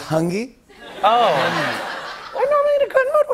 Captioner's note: laughter